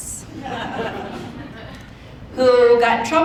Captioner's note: audience laughing